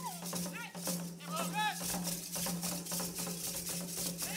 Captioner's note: drum beating and metal clinking; shouting; drum beating and metal clinking